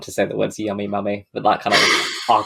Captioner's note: laughs